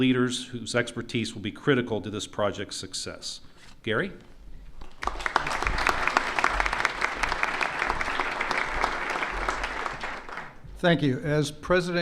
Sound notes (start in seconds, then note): 4.8 applause